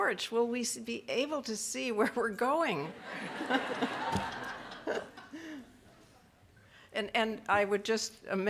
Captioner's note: laughs